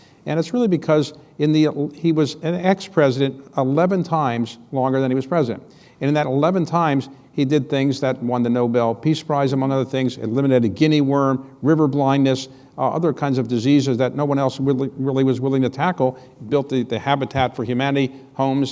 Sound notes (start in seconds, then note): none